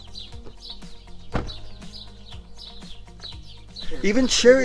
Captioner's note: car door banging